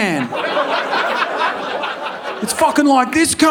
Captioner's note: audience laughing